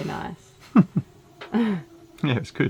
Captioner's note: laughs